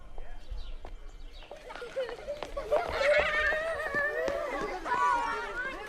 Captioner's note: people chattering; children playing